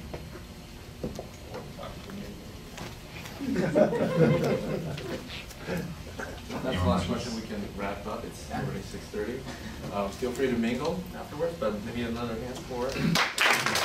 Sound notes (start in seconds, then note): 3.4 laughing